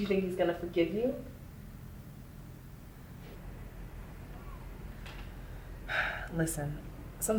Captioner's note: sighs and gasps